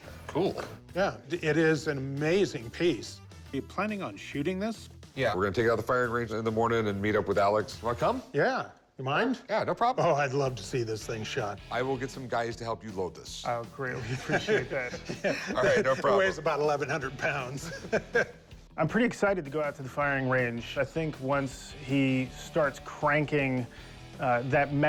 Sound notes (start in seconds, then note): 13.9 laughs; 17.4 laughs